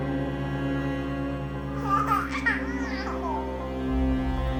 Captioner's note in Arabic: ضحك طفل